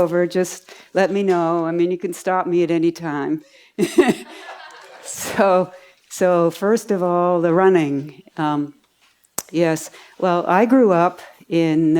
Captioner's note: laughs